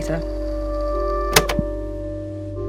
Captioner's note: click